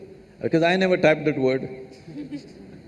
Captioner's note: few laugh